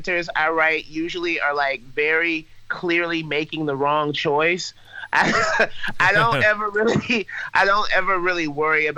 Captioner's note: laughs